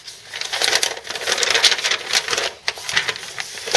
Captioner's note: paper crinkles